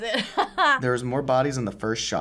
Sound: laughs

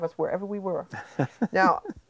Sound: chuckling

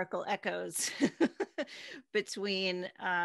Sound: laughing

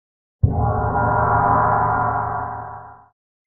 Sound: gong rings

